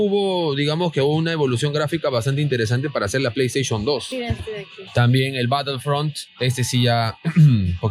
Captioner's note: ummm ummm